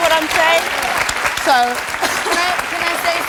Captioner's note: audience clapping